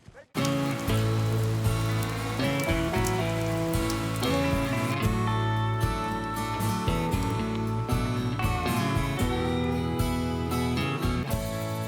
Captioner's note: rain falling